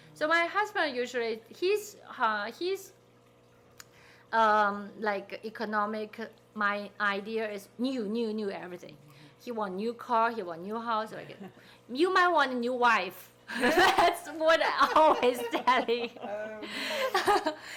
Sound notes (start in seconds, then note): 13.6 people laughing